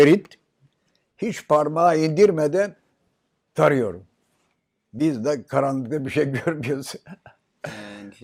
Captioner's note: foreign language